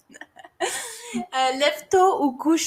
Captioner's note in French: rires